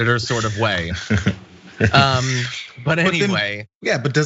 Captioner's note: laugh